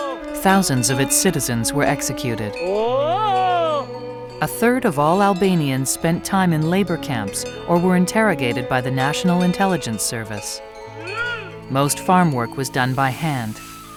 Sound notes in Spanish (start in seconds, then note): 2.5 Cabrero llamando a sus cabras